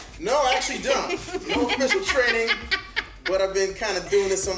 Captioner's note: Angela laughing